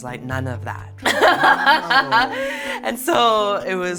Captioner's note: laughs